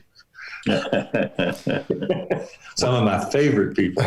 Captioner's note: laughter